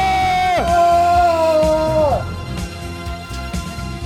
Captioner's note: screams